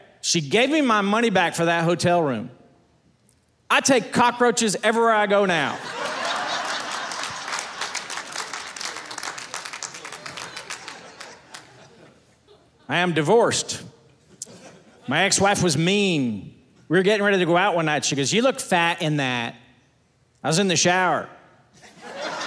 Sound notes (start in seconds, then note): 5.7 audience laughing; 7.5 audience applauding